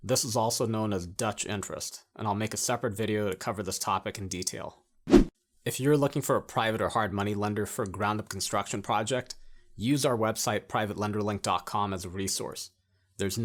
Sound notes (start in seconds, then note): 5.0 air whooshing